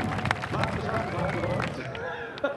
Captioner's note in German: Applaus